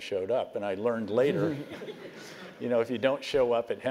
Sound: laugh

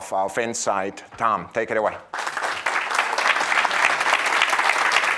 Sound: audience applauding

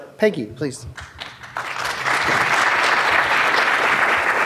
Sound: audience claps

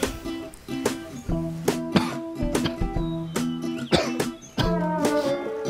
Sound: cough

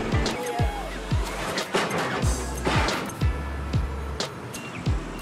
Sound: metal clanging

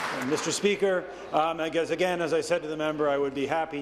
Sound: applause

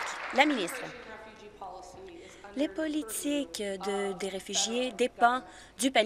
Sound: applause

